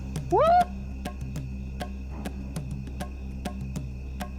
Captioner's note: investigator whooping; tense music